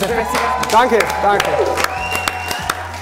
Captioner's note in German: Jubel, Pfiffe